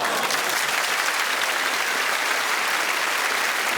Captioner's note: cheers and applause